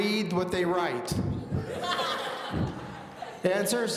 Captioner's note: audience laughing